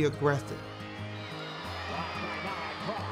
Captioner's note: crowd cheers